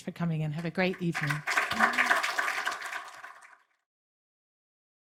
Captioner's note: audience applauding